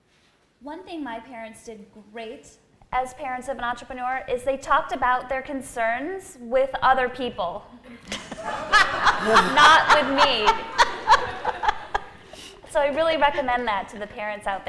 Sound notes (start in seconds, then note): 7.9 laughter